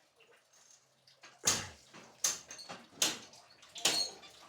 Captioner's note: metal clanking